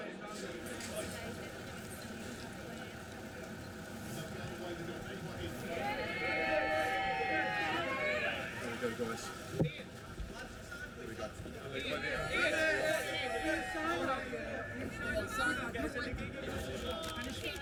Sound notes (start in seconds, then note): 5.7 cheering; 12.0 crowd call out